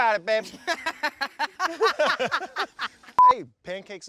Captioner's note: laughing